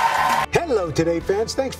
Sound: applause

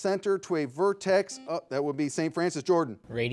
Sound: buzzer beeping

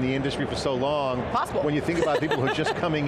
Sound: laughs

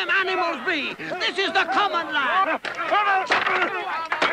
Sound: random shouts of protest

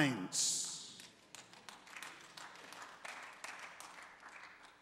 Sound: congregants applauding

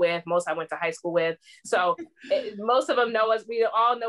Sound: laughter

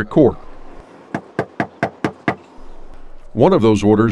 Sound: knocking

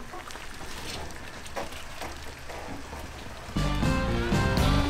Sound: tires crunching; uptempo blues music

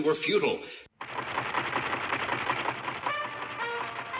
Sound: rattling; trumpet music

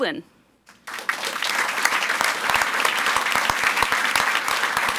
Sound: audience applauds

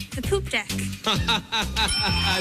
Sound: laughs

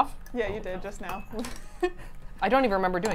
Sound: laughs

